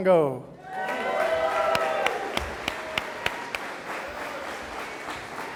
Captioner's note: audience applauding